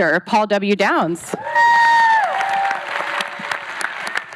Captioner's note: howling; applause